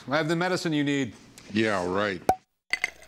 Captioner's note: cork pop; liquid pouring